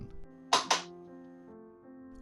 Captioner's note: lightbulb being switched on